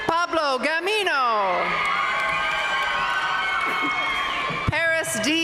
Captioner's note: audience cheering and applauding